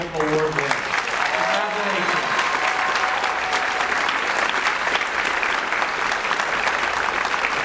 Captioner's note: audience cheers and applauds